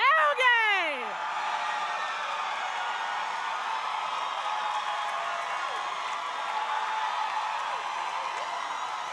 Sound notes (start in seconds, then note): 1.1 crowd cheering